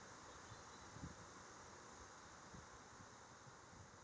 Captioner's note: nature sounds